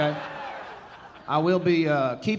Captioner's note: audience laughing